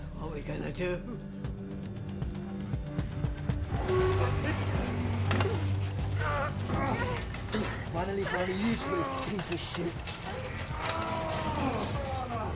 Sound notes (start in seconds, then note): 6.2 grunting